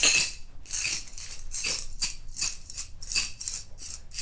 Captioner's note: clinking in glass